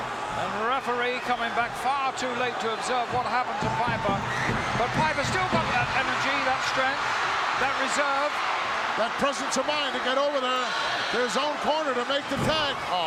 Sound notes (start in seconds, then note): 8.2 audience cheering